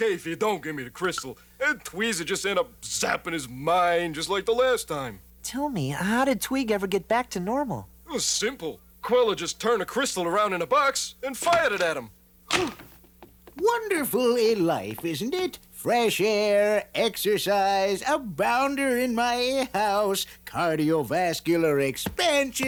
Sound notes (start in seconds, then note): 10.5 door opens; 10.5 gasps